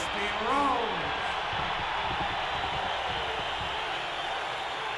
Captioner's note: audience cheering